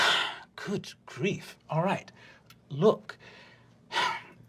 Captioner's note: sighs